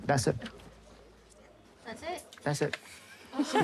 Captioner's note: laughter